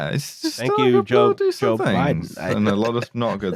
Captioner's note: laughs